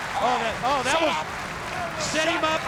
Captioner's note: crowd cheering